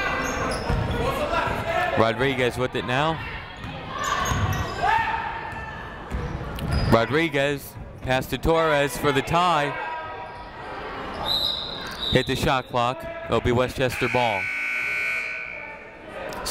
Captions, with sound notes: (people shouting in the crowd) Rodriguez with it now. (people shouting in the crowd) Rodriguez passed to Torres for the tie. (whistle tweeting) Hit the shot clock. It'll be Westchester ball. (buzzer ringing)